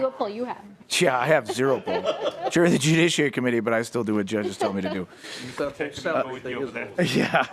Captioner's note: laughing